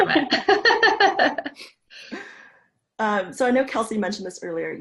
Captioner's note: chuckling